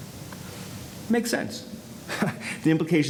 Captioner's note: chuckles